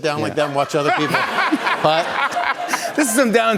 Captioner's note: laughter